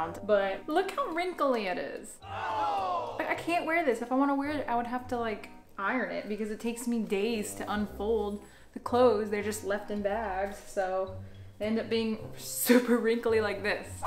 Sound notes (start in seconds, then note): 2.2 crowd gasps